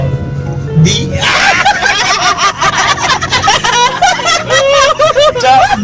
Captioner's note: laughing